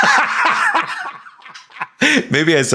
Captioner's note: Sam laughing